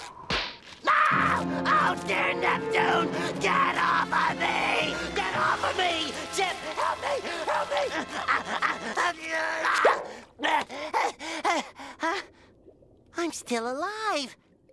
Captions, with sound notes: [screaming] Oh, dear Neptune, get off of me, get off of me! Chip! Help me, help me! [grunting] [breathing heavily] I'm still alive!